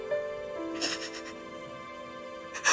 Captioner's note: Poonam crying